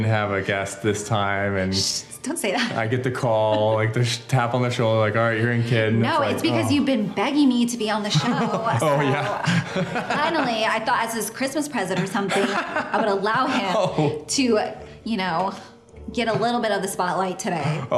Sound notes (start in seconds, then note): 3.4 laughs; 6.6 groans; 8.0 laughs